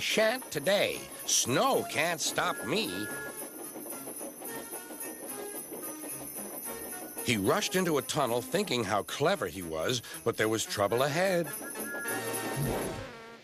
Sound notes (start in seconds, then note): 3.6 toots; 12.5 whistles